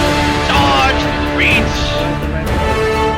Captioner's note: war Cries